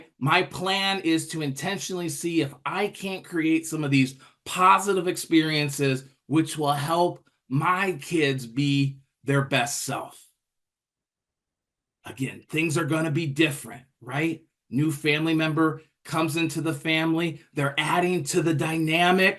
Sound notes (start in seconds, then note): none